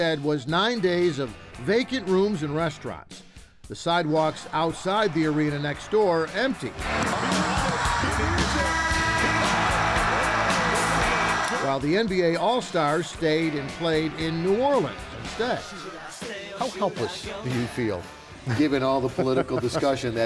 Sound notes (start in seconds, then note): 9.0 cheering